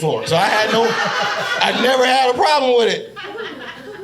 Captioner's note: audience laughing